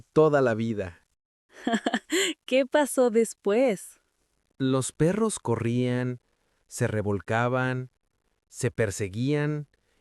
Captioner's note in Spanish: risas